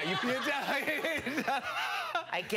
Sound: laughing

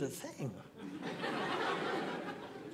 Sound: audience laughing

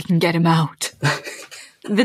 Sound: laughs

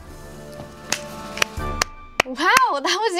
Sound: clapping

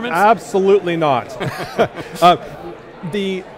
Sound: laughter

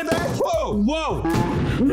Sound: balloon pops; guys exclaim in warped slow motion

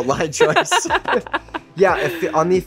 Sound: laughs

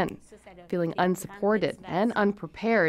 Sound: speaking French

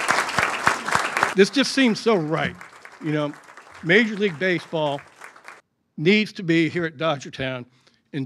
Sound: applause

